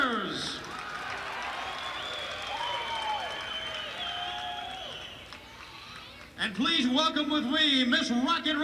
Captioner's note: crowd cheering